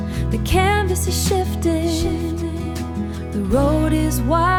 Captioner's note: shifting